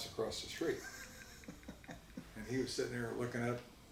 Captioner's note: laughs